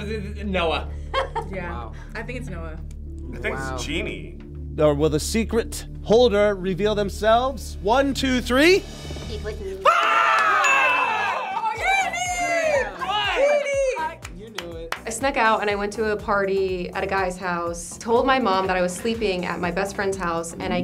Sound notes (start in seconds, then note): 1.0 group laughs; 9.8 group yells; 13.7 group claps